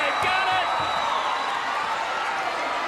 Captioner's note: crowd cheering